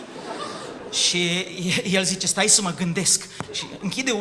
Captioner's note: laughter